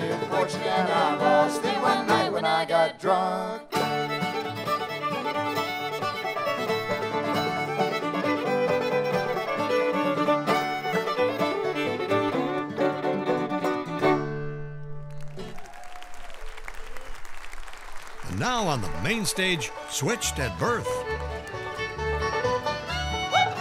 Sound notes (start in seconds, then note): 15.0 audience cheers and applauds